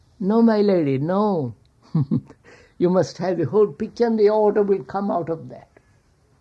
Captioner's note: laughs